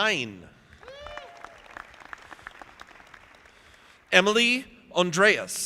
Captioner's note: audience applauding